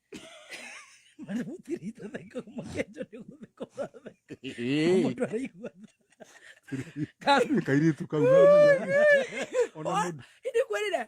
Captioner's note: laughter